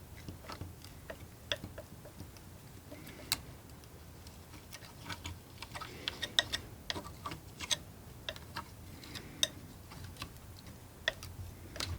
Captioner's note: tapping